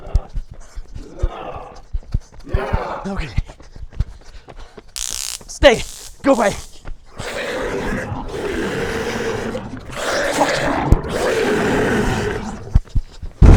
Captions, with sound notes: Okay, stay! [Stun gun creating electrical sound] Go away! [Creature roaring as it gets closer]